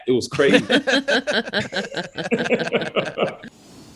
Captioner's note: all laughing